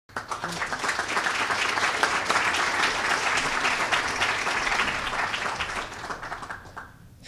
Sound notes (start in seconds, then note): 0.1 applause